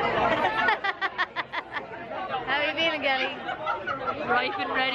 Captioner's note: laughs